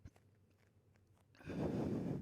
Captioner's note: breathing